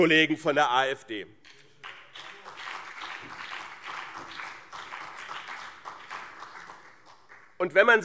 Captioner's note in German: Beifall BÜNDNIS 90/DIE GRÜNEN und CDU